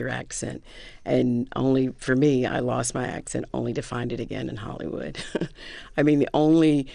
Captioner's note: laughter